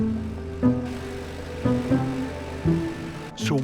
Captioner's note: drilling